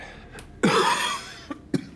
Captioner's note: coughs